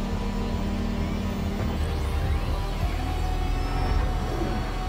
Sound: machinery rumbling

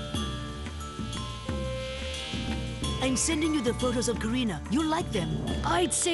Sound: cellphone bleeping; fly buzzing

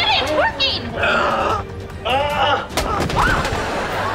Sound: groaning

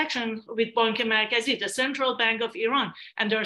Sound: non english speech

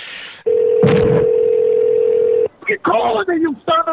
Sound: telephone Ringing

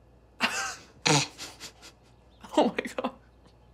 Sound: both chuckle

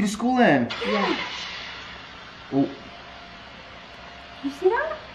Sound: engine starting

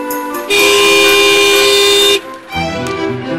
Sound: car horn blares

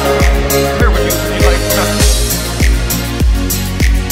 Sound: crowd chattering indistinctly; upbeat music

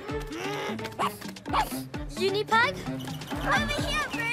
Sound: huffs; barks

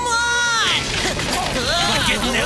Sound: yelling

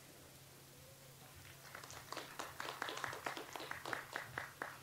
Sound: audience applauds

